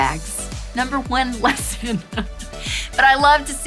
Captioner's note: laughs